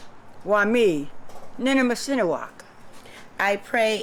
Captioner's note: non-english speech